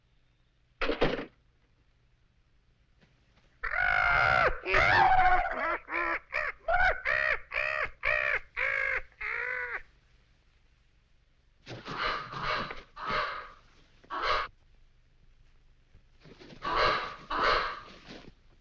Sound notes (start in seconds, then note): 0.1 door closes; 3.6 bird cawing